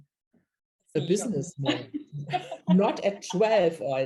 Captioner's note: laughs